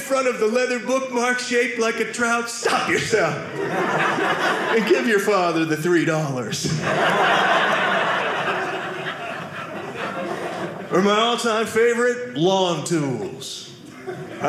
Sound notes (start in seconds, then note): 6.6 audience laughing